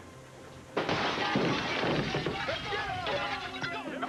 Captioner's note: glass shatters